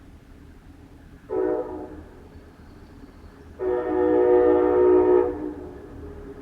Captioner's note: train whistle